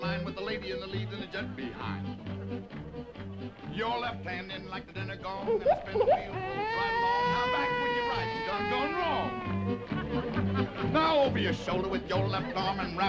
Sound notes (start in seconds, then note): 2.5 upbeat music; 5.6 baby crying